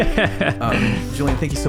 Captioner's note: laughing